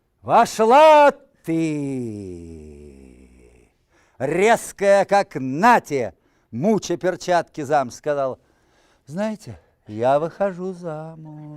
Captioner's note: reciting poem in Russian